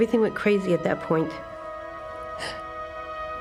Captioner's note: crying